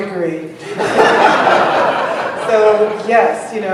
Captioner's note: laughter